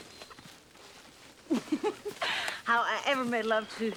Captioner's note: laughing